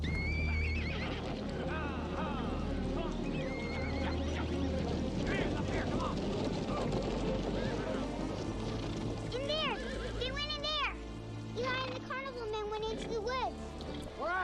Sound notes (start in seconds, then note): 0.2 horses whinnying; 0.2 tense music quickens; 4.7 hooves thundering; 4.7 posse yelling